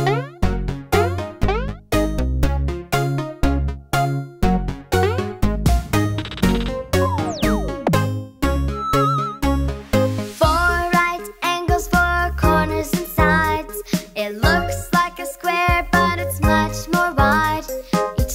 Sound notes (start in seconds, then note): 8.7 swirling whistle